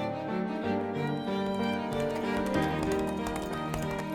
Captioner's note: determined music; hooves clacking